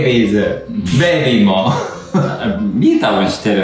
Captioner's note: laughs